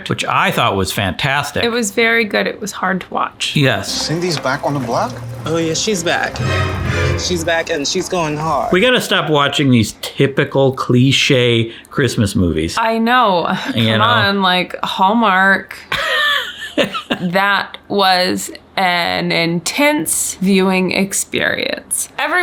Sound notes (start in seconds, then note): 6.4 dramatic music; 15.9 laughs